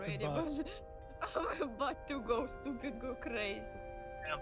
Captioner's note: laughs